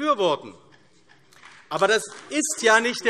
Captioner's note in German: Beifall AfD